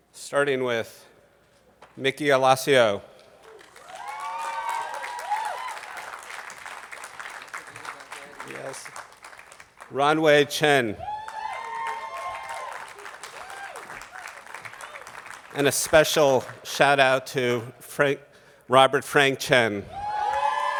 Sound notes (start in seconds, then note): 3.3 attendees clapping